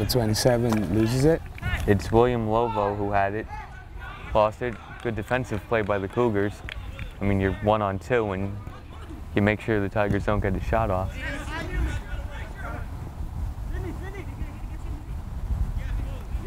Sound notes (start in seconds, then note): 11.7 players talking and yelling